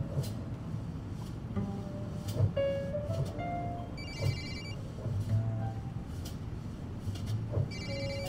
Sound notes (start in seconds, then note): 3.9 phone rings; 6.9 ring